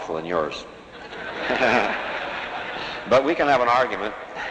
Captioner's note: laughter